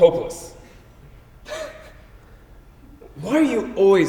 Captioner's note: chuckles